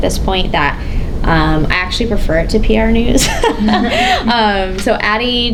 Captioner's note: laughs